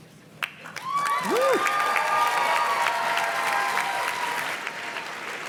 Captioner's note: audience cheers and claps